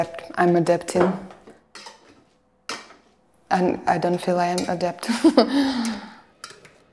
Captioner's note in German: lacht